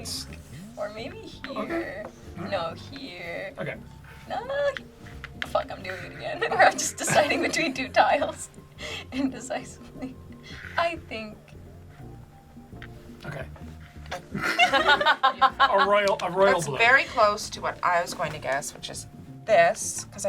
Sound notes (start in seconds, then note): 14.2 group laughs